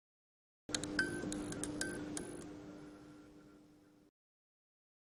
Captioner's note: animation chiming